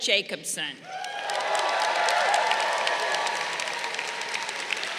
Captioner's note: crowd cheering